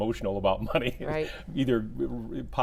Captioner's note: laughs